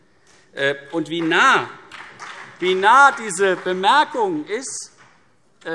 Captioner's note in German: Beifall CDU und BÜNDNIS 90/DIE GRÜNEN